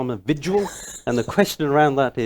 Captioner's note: laughing